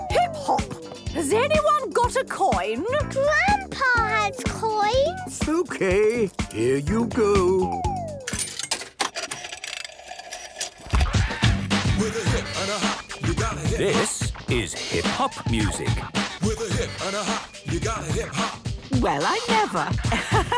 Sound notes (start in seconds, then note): 8.2 clicks, whirring; 11.1 hip hop music plays